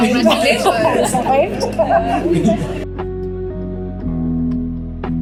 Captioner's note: laughs